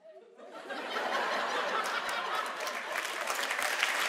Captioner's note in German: Schallendes Gelächter, Applaus